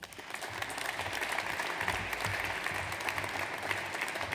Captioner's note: audience applauds